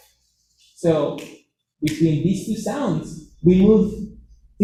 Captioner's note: snapping